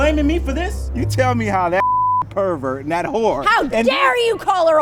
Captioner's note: beep